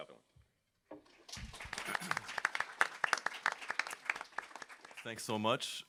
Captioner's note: applause